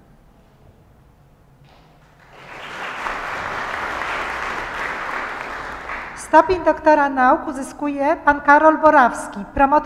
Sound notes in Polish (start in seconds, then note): 2.0 oklaski